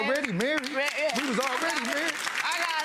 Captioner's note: audience claps